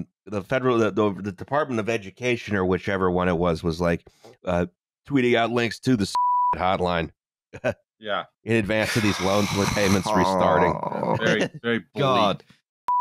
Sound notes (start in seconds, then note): 8.8 exasperated sigh